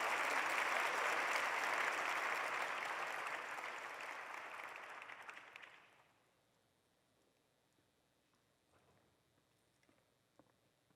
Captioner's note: applause